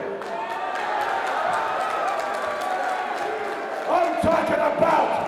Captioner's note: crowd cheering